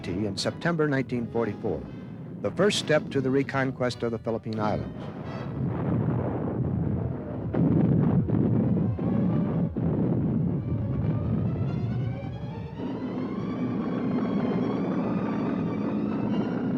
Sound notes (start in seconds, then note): 5.4 explosions